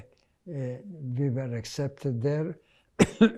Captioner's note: coughing